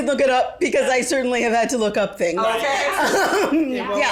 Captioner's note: laughs